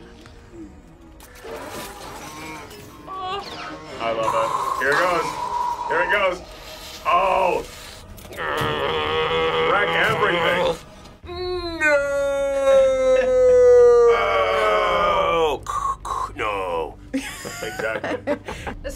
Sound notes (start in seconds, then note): 0.2 metal clattering; 4.2 breathes heavily; 8.2 growls; 15.8 breathes heavily; 17.2 React laughs